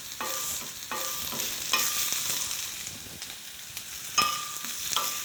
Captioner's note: food sizzling